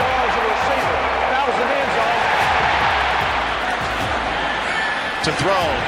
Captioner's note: cheering